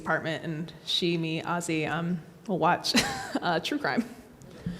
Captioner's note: laughs